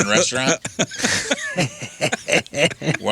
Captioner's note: laughing